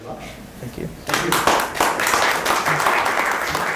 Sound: applause

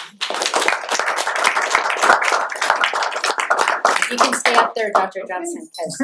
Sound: applause

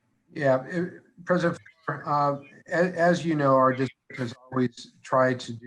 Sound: audio skips

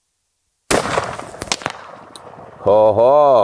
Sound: firearm shooting

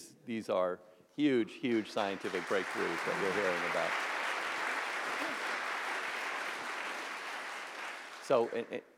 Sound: applause

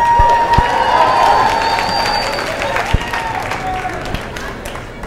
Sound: cheers and applause

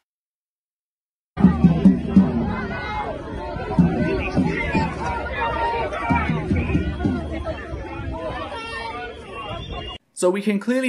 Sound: sounds of a crowd with drumming

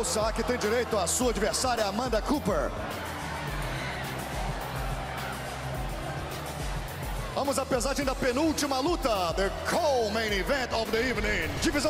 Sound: speaking foreign language

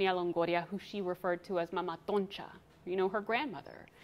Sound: speaks foreign language

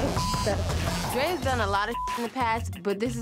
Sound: beep

